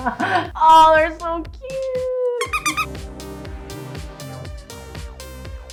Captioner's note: laughs; ball squeaks